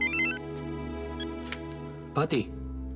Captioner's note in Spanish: Suena el celular